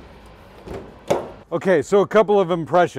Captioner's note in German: Schloss klopft